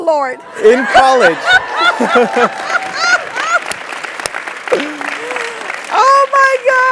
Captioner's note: laugh; applause